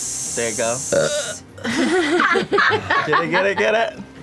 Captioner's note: belches; laughter